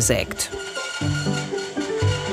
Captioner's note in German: Säge quietscht